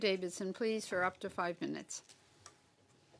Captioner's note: speaking French